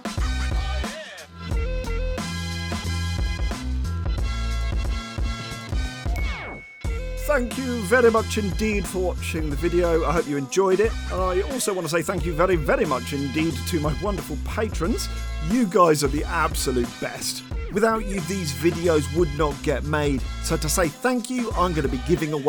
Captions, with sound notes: [ping!] Thank you very much indeed for watching the video. I hope you enjoyed it. I also wanna say thank you very, very much indeed to my wonderful patrons! You guys are the absolute best. Without you, these videos would not get made. So to say thank you, I'm gonna be giving